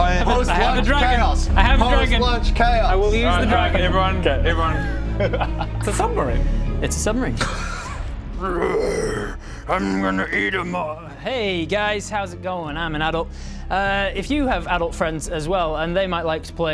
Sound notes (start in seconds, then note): 8.4 rwwarrr